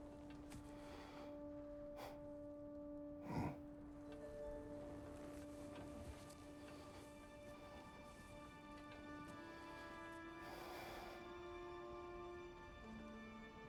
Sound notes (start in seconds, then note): 3.2 grunt